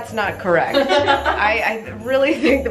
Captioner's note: group laughing